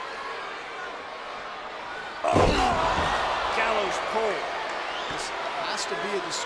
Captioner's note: applause